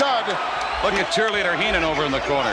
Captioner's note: audience cheers